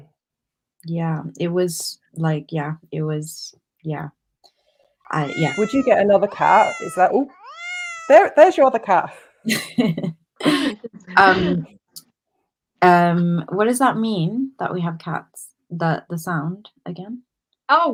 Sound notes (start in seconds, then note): 5.1 miaow noise; 5.1 miaow sound; 9.4 laughter